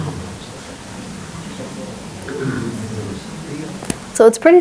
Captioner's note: audience mumbling